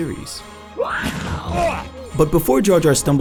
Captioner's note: Jabba the Hutt shrieking